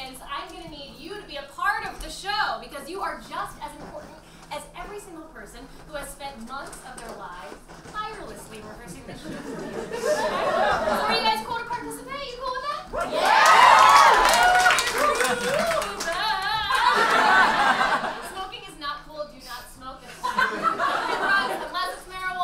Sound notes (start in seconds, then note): 9.0 audience laughing; 12.9 audience cheers; 16.4 audience laughs; 20.1 audience laughs